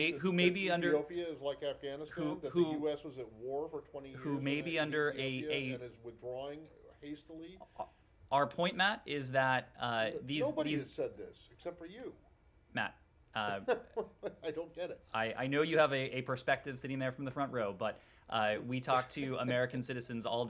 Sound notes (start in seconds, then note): 13.4 laughter